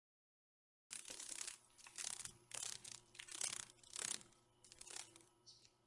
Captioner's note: sounds of a dragon fly